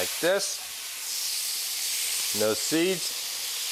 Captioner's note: pan sizzles